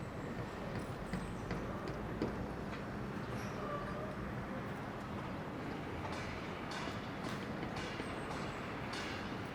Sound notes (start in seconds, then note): 0.2 hammering; 2.2 urban hum